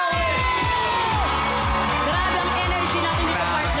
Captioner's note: audience cheering